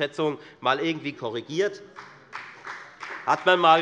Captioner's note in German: Beifall bei der FDP